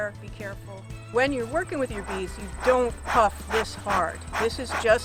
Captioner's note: puffs crazy hard